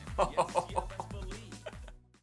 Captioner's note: laughter